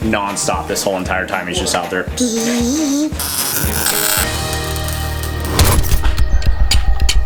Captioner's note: imitates welding and sawing; metal clanking